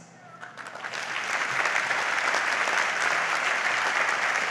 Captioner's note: audience applauds